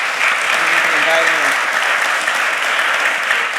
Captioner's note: applause